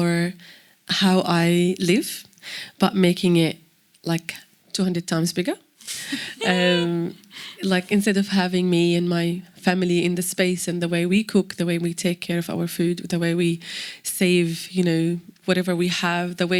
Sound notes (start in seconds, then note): 5.8 laughs